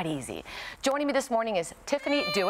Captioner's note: crying